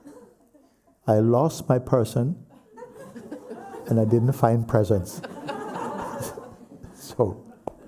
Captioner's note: laughter